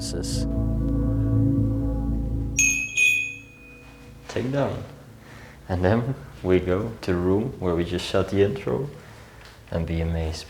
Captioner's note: bell sound